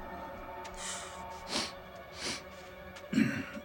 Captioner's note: sniffing